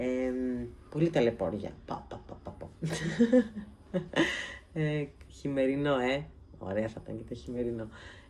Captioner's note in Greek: γέλια